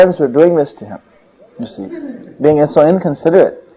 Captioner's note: devotees laughing again